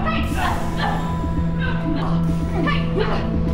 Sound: both grunting

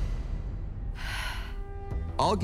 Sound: exhales deeply

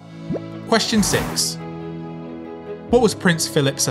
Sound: number pops and whooshes

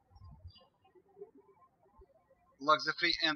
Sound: birds chirping

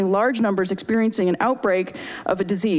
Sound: none

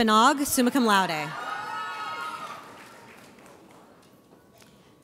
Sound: audience cheers

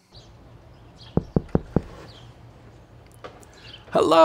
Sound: knocking

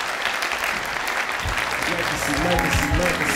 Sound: cheering and applause

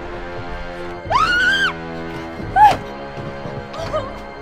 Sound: Reese screaming; suspenseful music

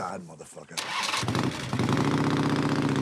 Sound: motor starts

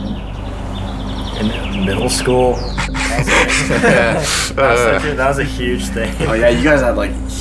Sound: laughing

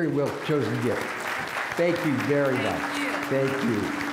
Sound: applause

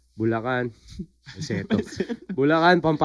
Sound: laughs

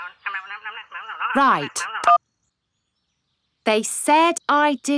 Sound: beeps

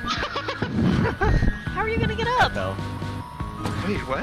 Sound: giggles

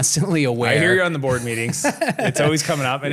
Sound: laughs

